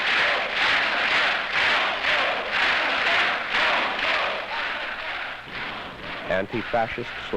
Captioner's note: crowd applauding, demanding an encore